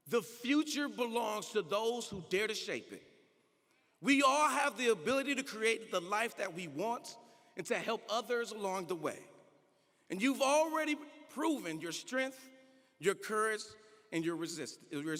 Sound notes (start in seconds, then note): none